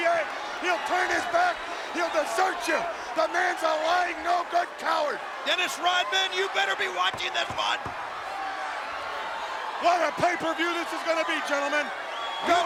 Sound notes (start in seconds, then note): 8.7 Hulk tapping